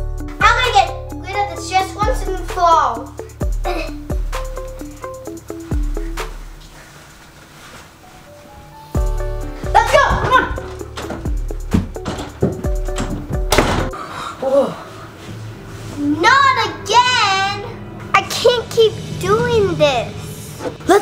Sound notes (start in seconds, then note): 13.2 door slams; 13.9 gasps